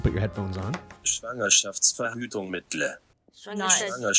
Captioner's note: foreign language